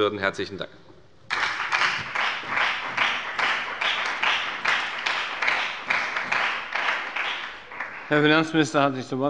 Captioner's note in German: Beifall bei der FDP und bei Abgeordneten der SPD